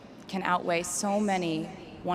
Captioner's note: none